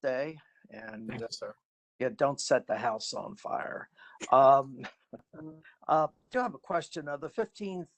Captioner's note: laughter